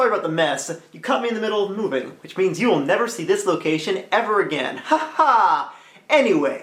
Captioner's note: laughs